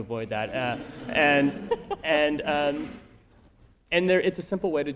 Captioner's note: laughter